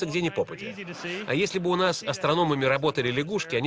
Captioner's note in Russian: Смех в зале